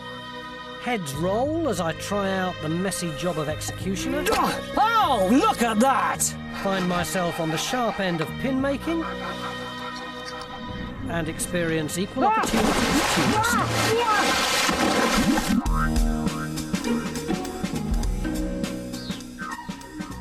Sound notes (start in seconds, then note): 0.2 dramatic music; 4.7 grunts; 13.3 Tony yelping; 14.8 dramatic music